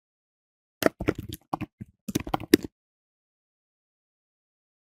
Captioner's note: keyboard typing